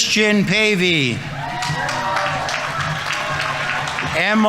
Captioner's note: audience members cheering; audience applauding